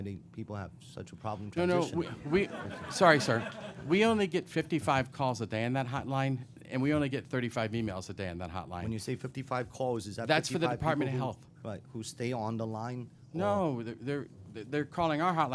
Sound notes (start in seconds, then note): 2.0 laughter